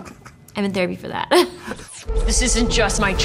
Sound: laughs

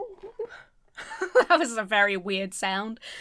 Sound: laughs

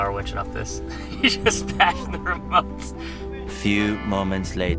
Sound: laughing

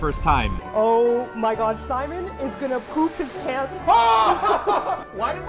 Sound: 💀 more screaming 💀; screaming

